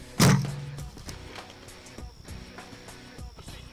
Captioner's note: gunshot